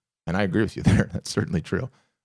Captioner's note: chuckles